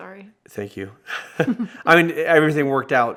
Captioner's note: both chuckling